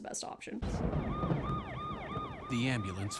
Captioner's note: ambulance sirens